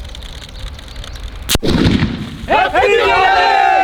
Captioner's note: cracker Bursts